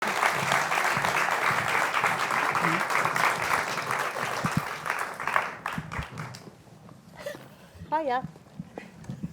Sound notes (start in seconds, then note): 0.0 applause